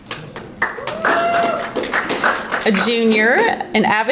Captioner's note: audience applauding